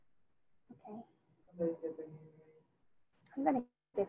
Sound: student speaking faintly

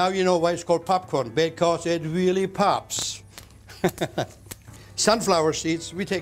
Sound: laughs

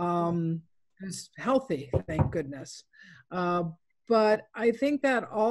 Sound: knocks table

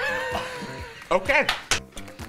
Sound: laughter

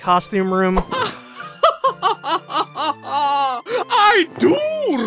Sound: laughing

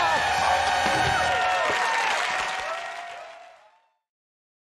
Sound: audience cheering

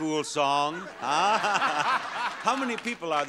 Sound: audience laughs

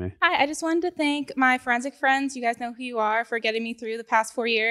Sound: none

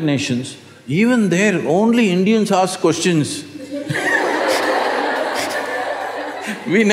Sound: laughs/Laughter

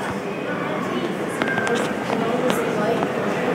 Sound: woman quietly speaking

